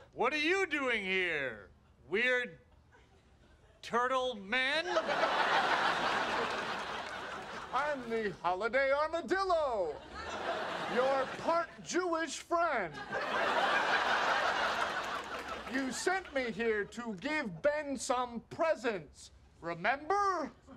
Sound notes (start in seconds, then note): 4.8 audience laughing; 12.9 audience laughing